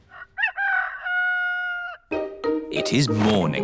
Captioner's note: rooster crowing